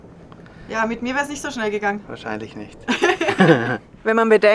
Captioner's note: laughter